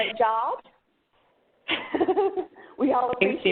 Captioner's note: laughs